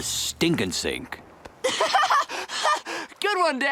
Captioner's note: laughs